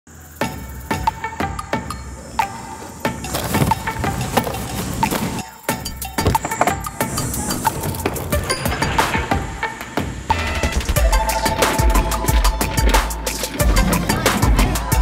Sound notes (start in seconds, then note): 0.0 upbeat music; 3.1 objects slamming; 8.0 cart noises; 11.5 rolling carts